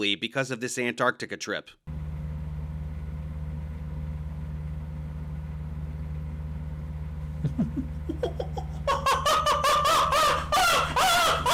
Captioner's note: insane chimp sounds